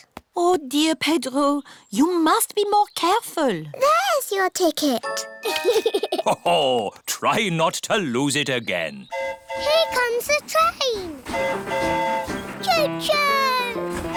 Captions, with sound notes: Oh, dear, Pedro, you must be more careful. -There's your ticket. -(GIGGLES) -Ho-ho! Try not to lose it again. -(TRAIN HORN HOOTING) Here comes the train. -(TRAIN HORN HOOTING) -Cho-choo!